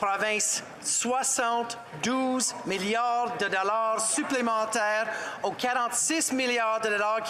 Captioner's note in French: voix de l'interprète